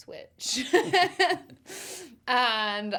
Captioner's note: chuckles